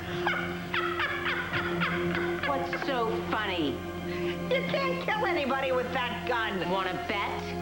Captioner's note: niki laughs